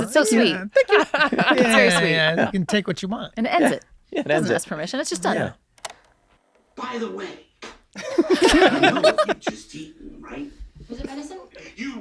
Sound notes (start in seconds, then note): 6.1 graphic clicks; 7.9 all laughing